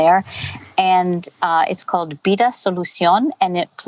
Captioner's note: non-english speech